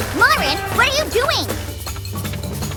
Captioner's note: patter of feet